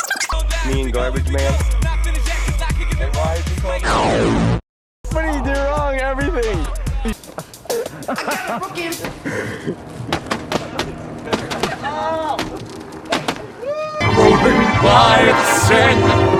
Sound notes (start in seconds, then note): 3.8 transformation sound; 8.9 hitting the pinata man sounds